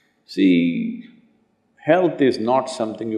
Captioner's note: none